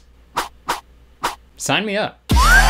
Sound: fast swooshing; wolf whistling

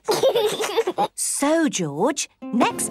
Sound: giggles

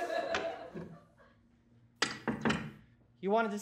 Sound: door opens and closes

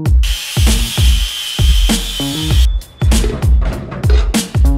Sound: grinder whirring

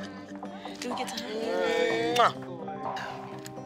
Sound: iyanla laughs

